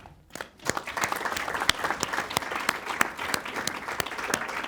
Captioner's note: audience applauds